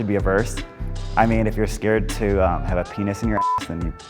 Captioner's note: beeps